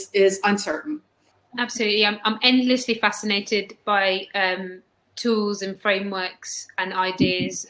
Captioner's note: erm